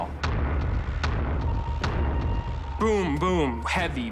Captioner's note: thudding